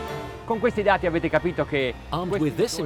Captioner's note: speaking foreign language